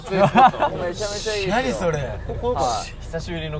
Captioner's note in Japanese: 小声